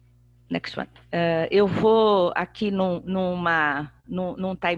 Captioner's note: speaking portuguese